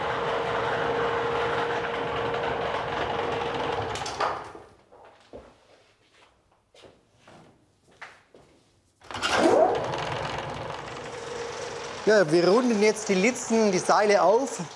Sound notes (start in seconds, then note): 3.5 machine stops; 9.0 engine starts